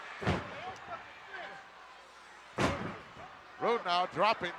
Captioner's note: fists thudding